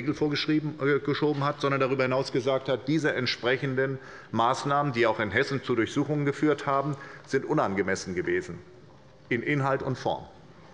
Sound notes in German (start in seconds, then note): none